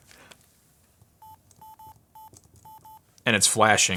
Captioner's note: beeping